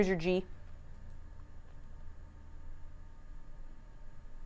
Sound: fan whirs

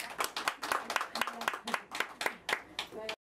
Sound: clapping

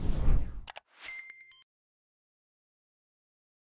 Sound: click

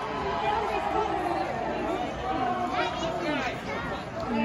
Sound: crowd cheering in distance

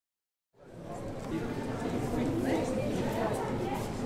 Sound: people talking

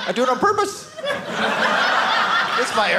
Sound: audience laughing

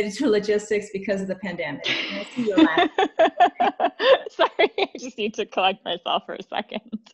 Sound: laughing

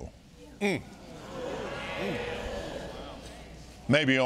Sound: audience marveling

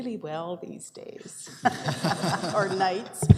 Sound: laughter

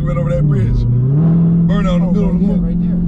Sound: car engine growling

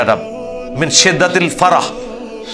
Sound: Arabic

